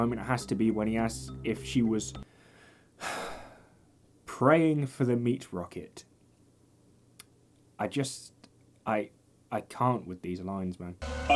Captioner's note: sighs